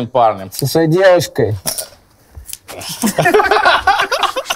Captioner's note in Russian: Смех